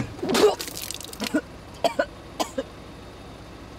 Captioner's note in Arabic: راشيل تتقيأ